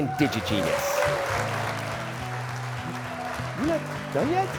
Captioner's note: applause